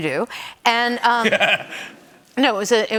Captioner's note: laughter